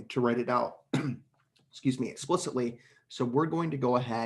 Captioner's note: coughs